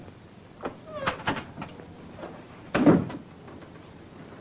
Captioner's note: door creaking